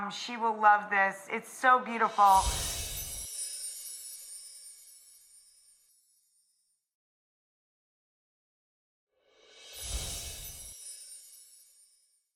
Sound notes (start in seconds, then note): 2.2 chimes tinkling